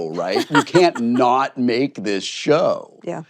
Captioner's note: laughs